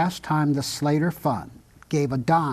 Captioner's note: speaking Italian